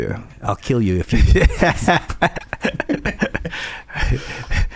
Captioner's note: laughing